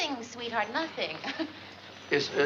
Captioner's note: chuckles